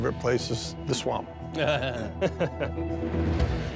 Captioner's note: laughing